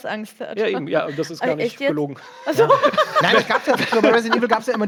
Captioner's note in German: Lacht